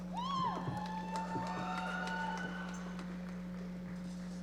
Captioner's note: audience applauding